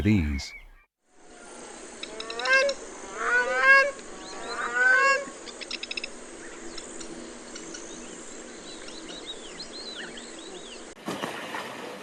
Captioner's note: birds chirping